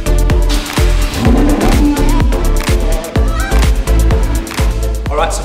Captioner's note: engine revving up